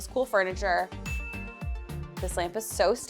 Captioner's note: bell dings